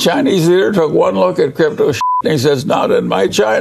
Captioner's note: beep